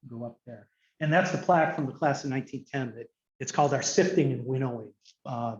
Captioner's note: none